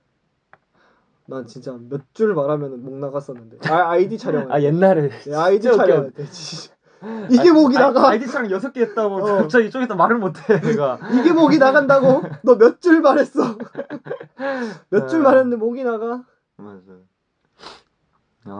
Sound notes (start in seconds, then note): 7.0 laughs